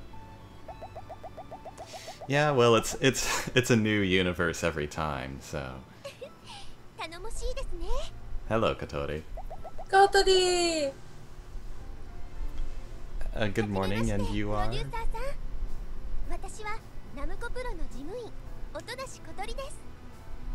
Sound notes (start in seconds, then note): 6.0 giggle